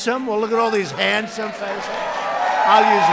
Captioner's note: applause